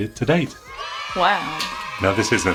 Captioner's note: children cheering